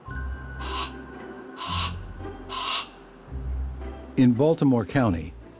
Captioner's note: hawk calls